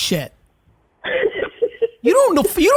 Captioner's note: laughing